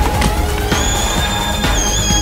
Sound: Proto squeals; wall explodes

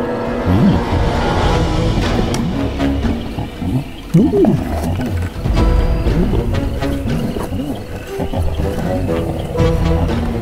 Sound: chuckles

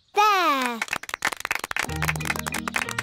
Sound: applause

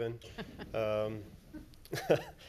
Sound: laughs

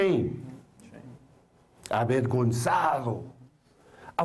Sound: foreign Language

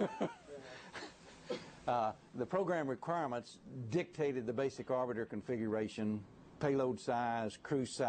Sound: laughter

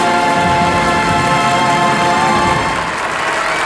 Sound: audience applauds

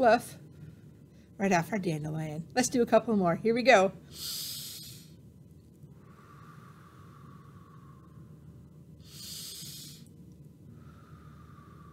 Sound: breathing

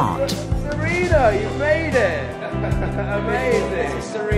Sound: laughing

